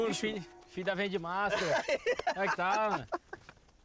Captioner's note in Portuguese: rindo